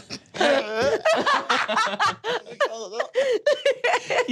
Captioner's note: retches